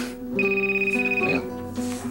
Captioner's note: Sonnerie du téléphone